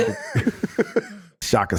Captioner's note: everyone laughing